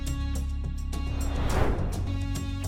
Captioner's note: suspenseful music continues; transition whooshing